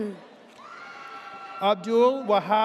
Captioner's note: audience cheers